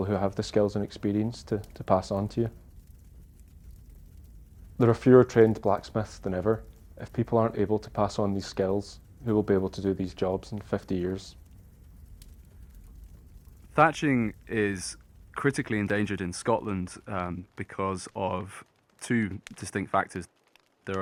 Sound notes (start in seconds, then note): 11.9 fire crackling continues